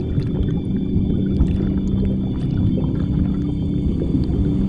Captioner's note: water bubbling